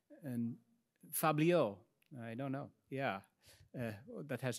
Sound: speaks in foreign language

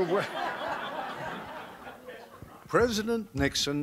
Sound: background laughter

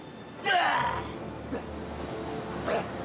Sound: battle cry

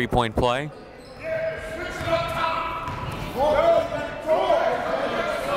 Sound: coaches barking commands

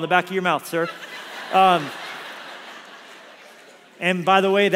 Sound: congregation laughs

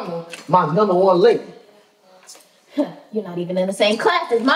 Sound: scoffs

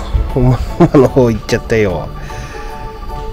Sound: laughs

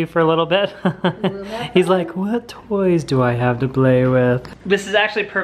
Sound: laughs

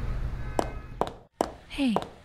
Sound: footsteps

